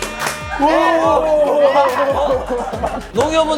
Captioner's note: howling in delight